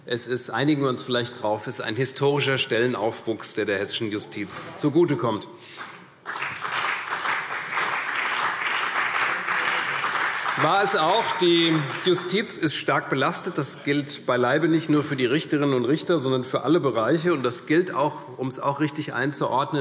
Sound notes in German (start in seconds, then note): 6.2 Beifall CDU und BÜNDNIS 90/DIE GRÜNEN